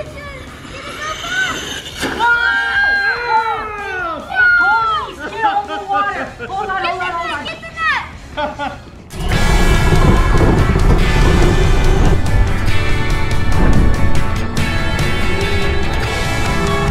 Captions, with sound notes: - I think it's gonna go. (exclaiming) Get the net. Get the net. (upbeat instrumental)